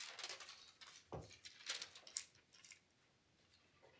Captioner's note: paper flipping